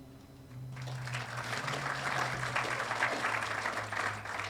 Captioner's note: audience applauding